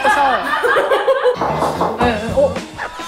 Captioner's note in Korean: 똑똑똑